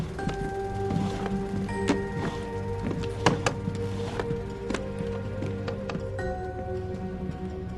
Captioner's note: clatter of weapons box